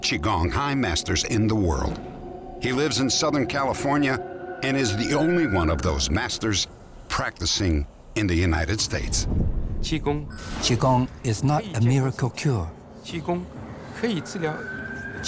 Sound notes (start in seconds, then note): 9.8 speaking mandarin